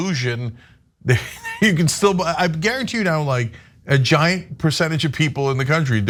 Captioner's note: laugh